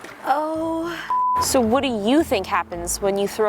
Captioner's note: beep